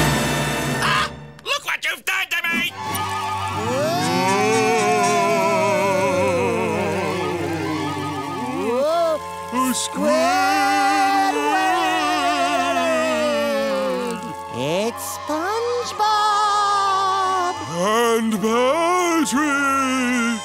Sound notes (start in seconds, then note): 3.4 spooky wailing